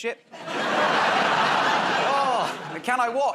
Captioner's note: laughter